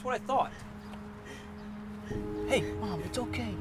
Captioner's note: crying